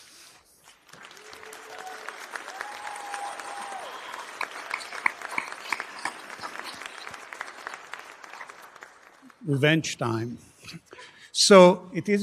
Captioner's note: applause